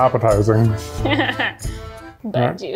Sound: laughs

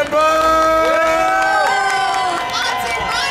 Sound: audience cheering

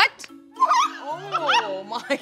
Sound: laughs

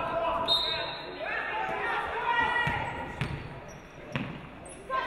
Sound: referee blows whistle

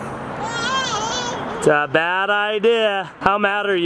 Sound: child yelling

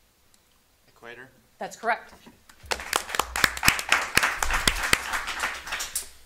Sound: audience applauding

